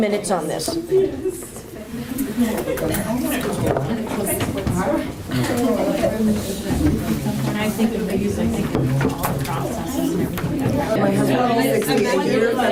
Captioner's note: audience chatter